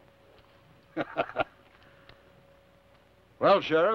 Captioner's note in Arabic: ثيودور يضحك